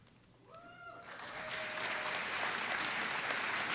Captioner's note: applause